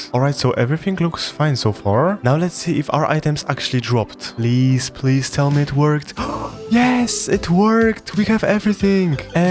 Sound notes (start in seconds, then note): 6.1 gasp